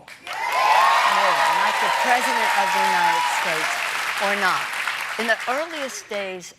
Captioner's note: cheers and applause